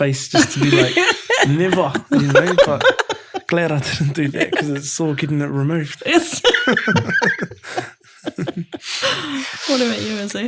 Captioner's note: all laugh